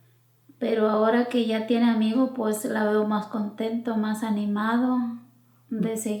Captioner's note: speaking in foreign language